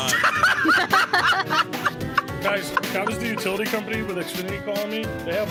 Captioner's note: laughing